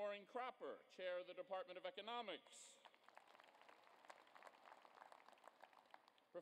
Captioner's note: applause